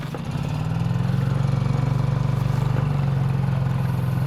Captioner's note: boat revving